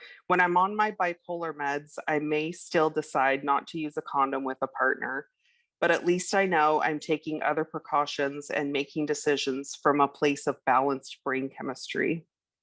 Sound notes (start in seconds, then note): none